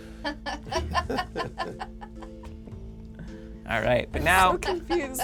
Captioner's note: group laughs